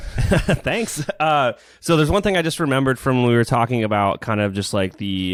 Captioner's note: laughs